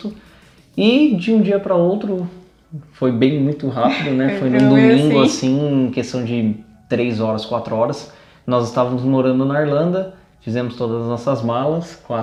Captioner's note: laughs